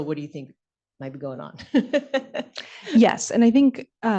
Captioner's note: laughs